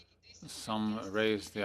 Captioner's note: speaking French